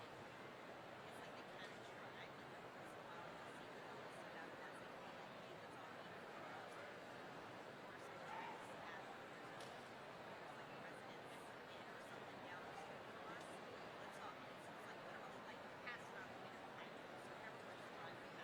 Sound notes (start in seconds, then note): 6.4 people chattering